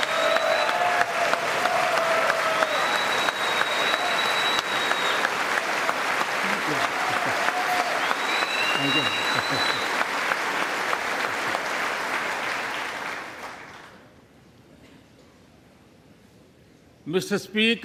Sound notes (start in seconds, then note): 2.1 applause